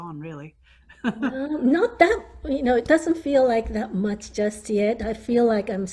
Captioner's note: laughing